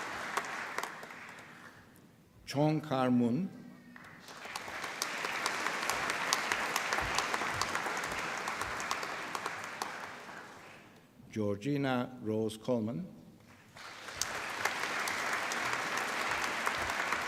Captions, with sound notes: Chong Kar Mun. (APPLAUSE) Georgina Rose Coleman. (APPLAUSE)